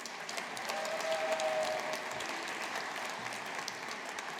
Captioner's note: audience applauding